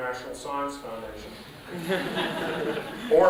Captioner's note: laughter